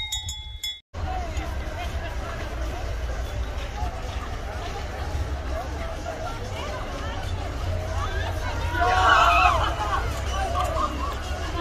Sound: noise of the ride

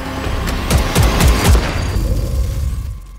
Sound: gunshots

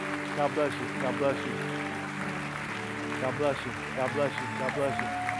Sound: applause

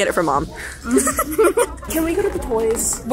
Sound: laughs

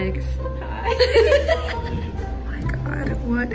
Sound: giggling

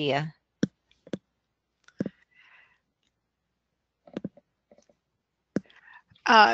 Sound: silence

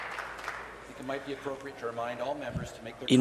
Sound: applause

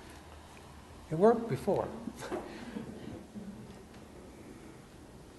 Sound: audience chuckles

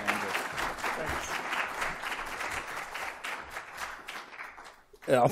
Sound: applause

